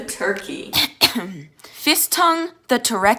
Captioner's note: clears throat